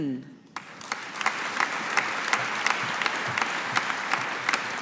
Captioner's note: audience applauding